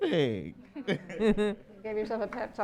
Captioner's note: all laughing